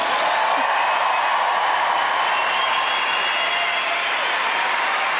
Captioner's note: audience cheering